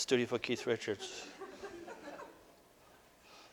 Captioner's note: audience: Laughter